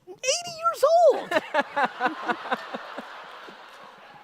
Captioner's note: audience laughter